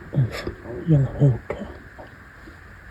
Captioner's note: whisper